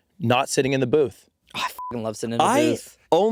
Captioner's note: beeping